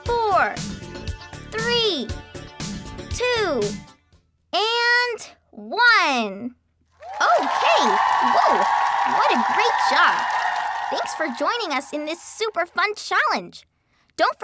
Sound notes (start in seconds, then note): 9.8 audience cheering